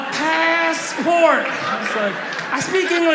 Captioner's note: audience laughs